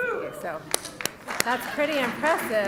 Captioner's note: applause